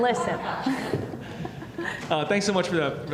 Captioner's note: laughing